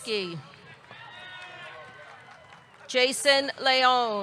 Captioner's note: audience cheering